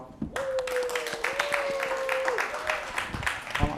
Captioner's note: applause